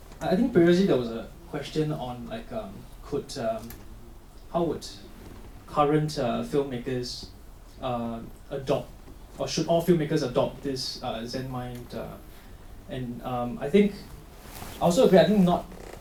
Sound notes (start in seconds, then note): none